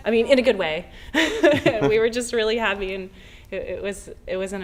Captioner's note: laughter